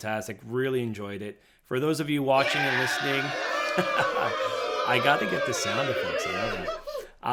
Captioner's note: cheer sound effect